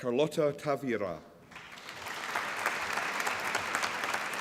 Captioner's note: applause